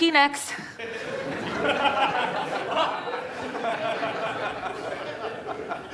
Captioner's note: audience laughing